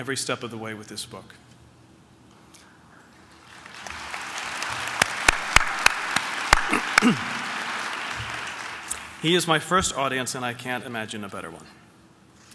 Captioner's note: applause